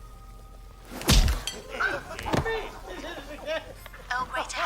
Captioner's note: laughter